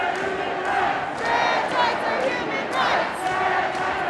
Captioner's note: chanting; chanting continues